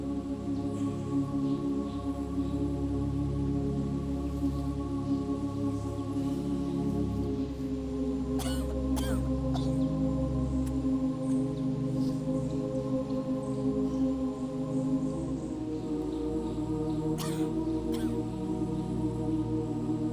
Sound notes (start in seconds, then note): 8.3 Abby coughs; 13.0 peaceful music; 17.2 Abby coughs